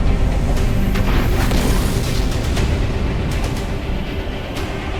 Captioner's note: explosion booming